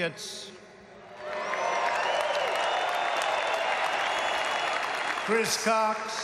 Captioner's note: applause